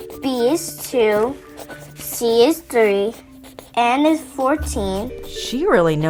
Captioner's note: pencil scratching sounds